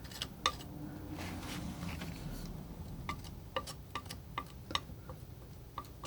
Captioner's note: tapping